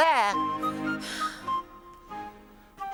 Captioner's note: sighs